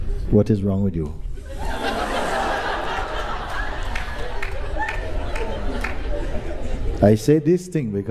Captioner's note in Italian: Risate